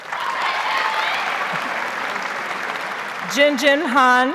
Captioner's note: audience shouts and applauds